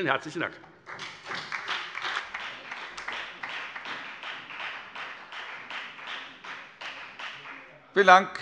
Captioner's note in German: Beifall bei der FDP und bei Abgeordneten der SPD